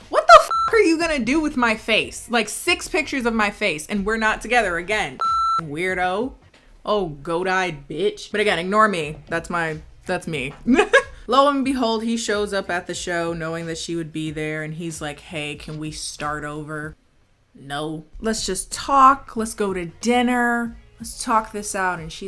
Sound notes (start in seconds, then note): 0.4 beep; 5.2 beep; 10.7 chuckling